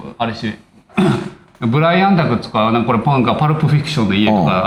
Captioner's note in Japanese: 咳払い